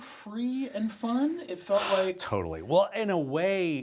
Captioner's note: sighs